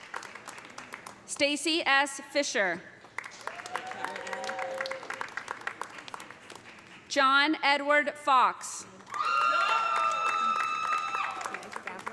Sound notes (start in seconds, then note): 3.3 cheers and applause; 9.0 cheers and applause